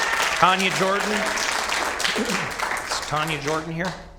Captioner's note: applause